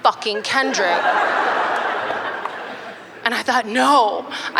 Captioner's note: laughter